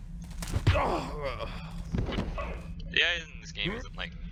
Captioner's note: Blackjack thuds